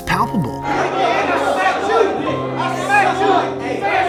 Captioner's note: shouting